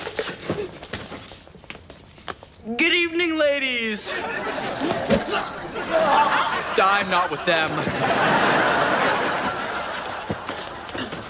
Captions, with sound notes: Good evening ladies. (audience laughs) (groans) I'm not with them. (audience laughs)